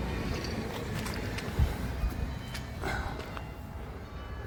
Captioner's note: church bells